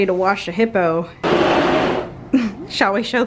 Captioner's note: door sliding